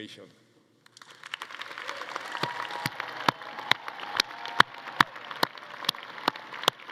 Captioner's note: everyone applauding; attendees cheering